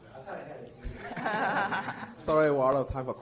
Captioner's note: speaker laughs